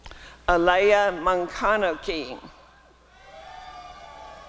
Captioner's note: applause and cheering